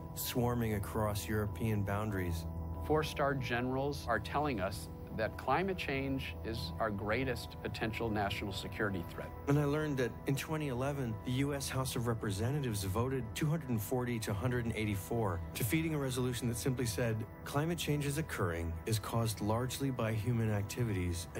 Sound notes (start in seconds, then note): none